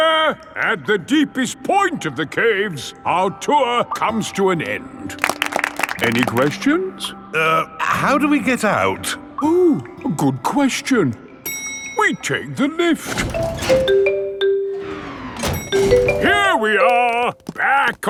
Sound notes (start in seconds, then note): 5.1 all clapping; 13.0 elevator dings